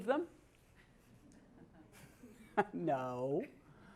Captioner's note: laugh